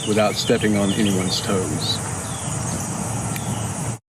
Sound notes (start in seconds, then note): 2.6 birds chirp